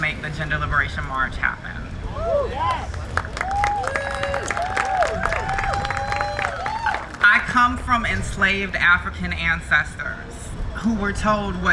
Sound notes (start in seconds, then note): 1.8 crowd cheering